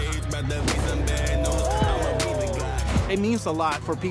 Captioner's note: crowd "oohs"